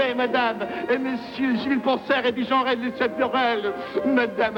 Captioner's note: speaking French